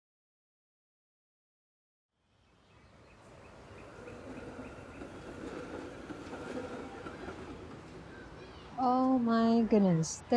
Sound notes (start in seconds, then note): 2.2 bird chirping